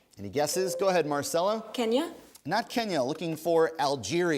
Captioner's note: ding